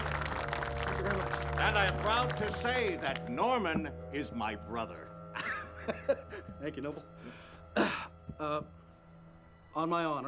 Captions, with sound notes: THANK YOU VERY MUCH. AND I AM PROUD TO SAY THAT NORMAN IS MY BROTHER. [ LAUGHS ] THANK YOU, NOBEL. [ CLEARS THROAT ] UH, ON MY HONOR,